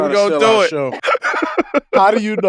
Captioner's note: laughs